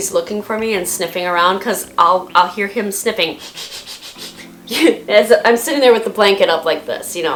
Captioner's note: sniff, sniff, sniff